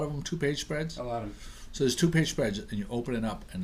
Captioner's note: voiceover